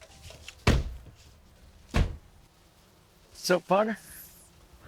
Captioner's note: door bangs